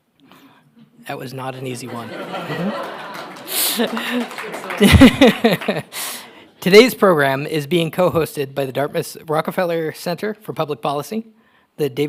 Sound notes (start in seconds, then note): 1.7 audience laughing; 1.9 laughing